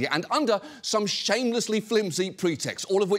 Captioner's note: none